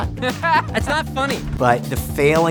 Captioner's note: MILES laughs